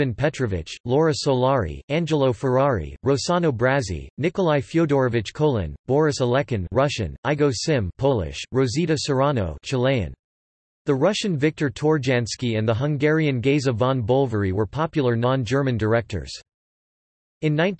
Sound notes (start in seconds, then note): 7.8 Polish